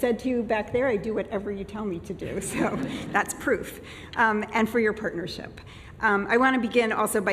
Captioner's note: laughter